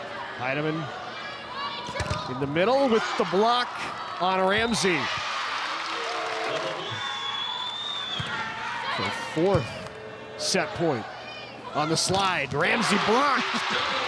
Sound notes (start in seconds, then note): 4.8 audience cheering; 8.3 ball thumping